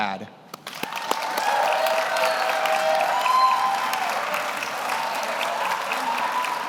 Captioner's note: audience applauds; audience cheers